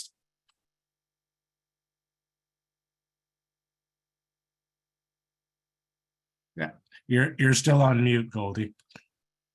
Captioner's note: muted